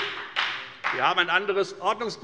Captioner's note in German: Beifall bei der FDP